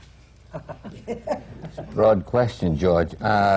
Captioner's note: laughter